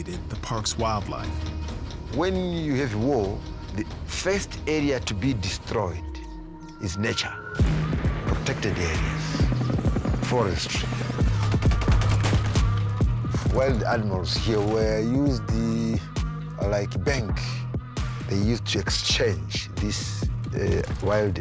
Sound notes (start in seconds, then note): 11.4 gunfire